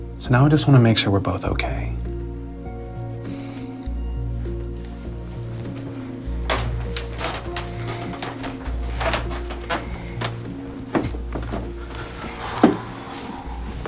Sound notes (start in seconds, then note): 6.3 floor creaks; 11.8 exhales